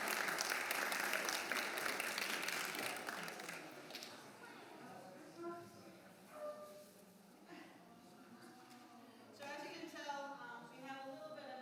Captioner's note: applause